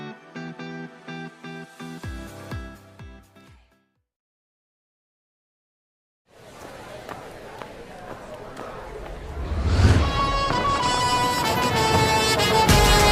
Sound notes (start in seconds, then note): 6.4 chatter; 9.8 upbeat music